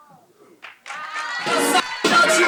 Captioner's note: audience applauds and cheers